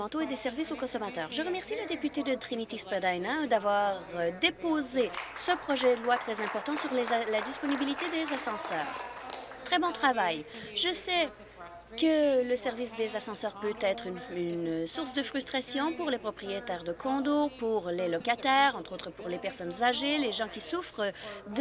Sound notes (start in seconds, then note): 9.3 applause